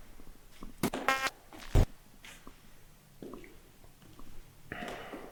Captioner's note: static crackling